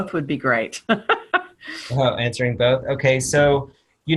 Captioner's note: laughter